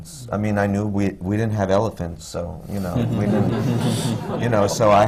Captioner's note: laughter